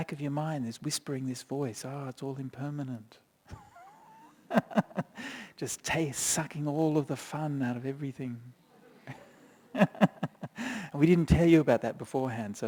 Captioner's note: chuckles